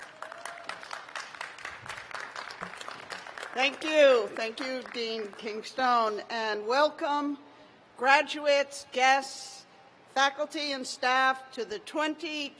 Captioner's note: cheers and applause